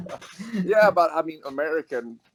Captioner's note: laughs